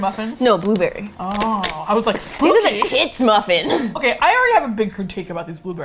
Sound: laughs

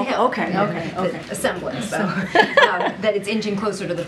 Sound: laughter

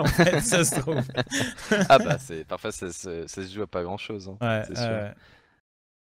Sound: laughs

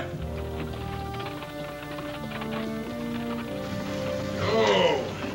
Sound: wagon rattling

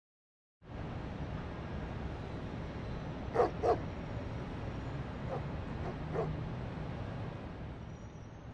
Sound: street sounds

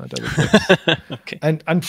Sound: laughing

